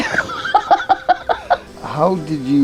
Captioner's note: person laughing